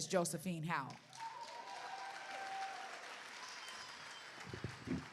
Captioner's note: cheers and applause